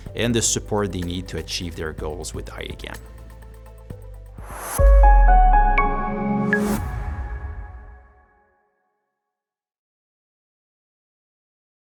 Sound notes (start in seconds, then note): 5.9 bright chimes ring